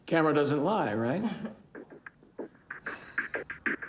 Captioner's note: chuckles